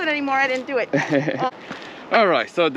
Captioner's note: laughs